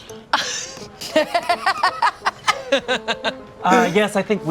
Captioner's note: Bug laughs